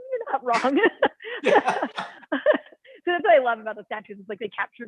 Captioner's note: laughter